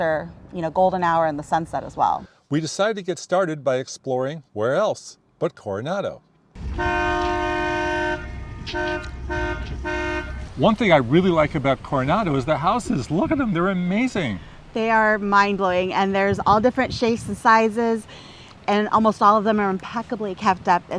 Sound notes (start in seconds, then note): 6.6 boat horn sounding